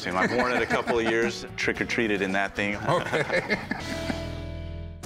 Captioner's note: laughs